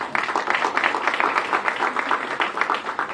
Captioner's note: applause